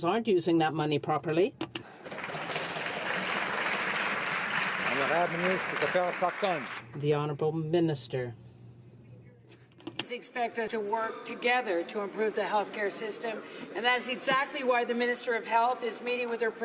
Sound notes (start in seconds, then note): 6.8 some Applause